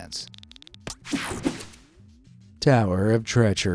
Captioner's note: graphics whooshing